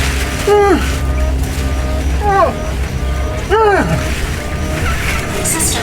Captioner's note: Hawk choking; Hawk gasping